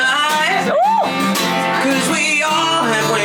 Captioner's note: woman cheering